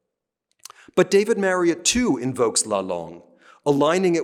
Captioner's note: speaking french; speaking french